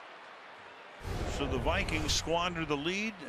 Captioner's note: swoosh